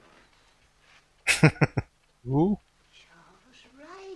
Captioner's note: chuckling